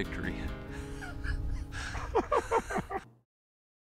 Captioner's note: laughing